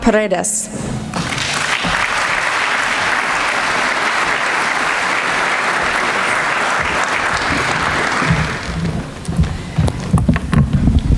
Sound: applause

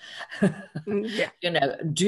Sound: laughs

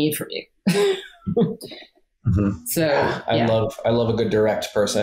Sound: laughs

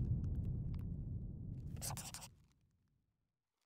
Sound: scribbling

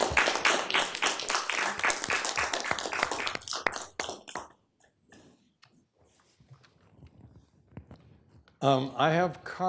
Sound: applause

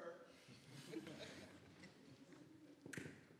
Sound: murmuring

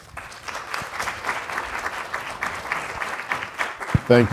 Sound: audience applause

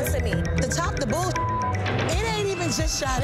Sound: beep

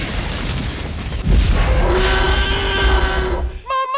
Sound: roaring thunderously

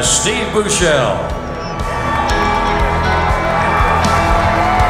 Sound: crowd cheering

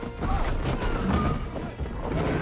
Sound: screaming

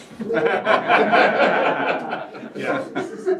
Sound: laughter

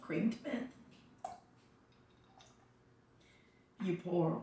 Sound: liquid glugging

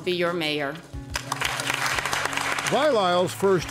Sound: audience applause

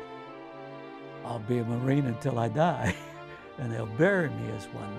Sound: chuckles

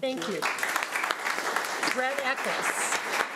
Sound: audience applauding

